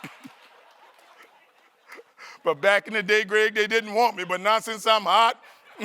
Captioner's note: laughter